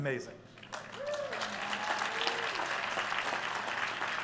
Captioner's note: applause